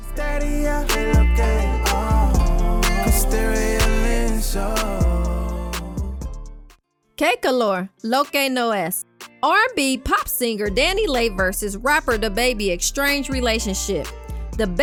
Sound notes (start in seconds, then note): 6.8 speaking in foreign language